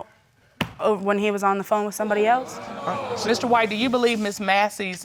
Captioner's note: audience exclaiming